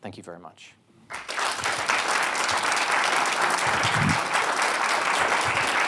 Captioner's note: audience members clap